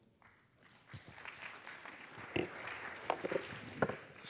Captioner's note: applause